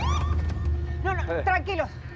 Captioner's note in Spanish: sirena de policía